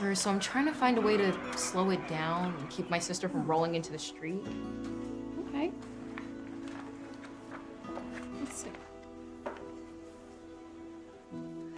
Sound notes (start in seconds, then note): 5.8 flipping paper pages; 9.3 inspiring background music